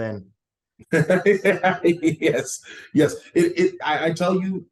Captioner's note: laughs